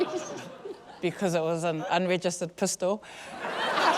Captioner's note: laughter